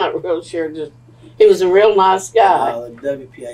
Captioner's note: laughs